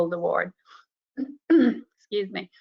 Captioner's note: woman clears throat